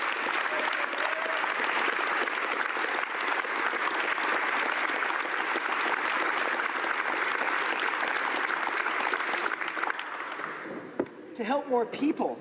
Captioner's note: applause